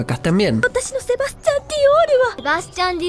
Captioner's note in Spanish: en japonés